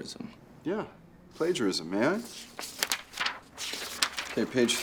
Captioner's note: paper rustling